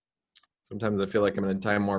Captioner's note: smacks teeth